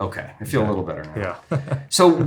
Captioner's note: laughs